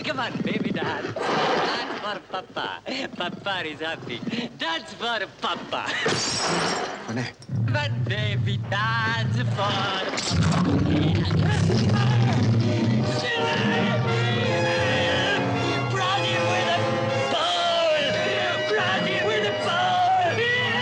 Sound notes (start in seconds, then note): 6.0 glass shatters; 10.5 bear snarls; 12.7 Monsieur Vanet yells; 12.7 suspenseful orchestral music